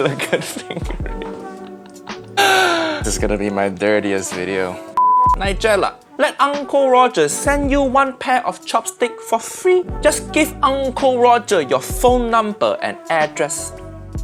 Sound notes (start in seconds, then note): 0.0 laughs; 5.0 signal beeping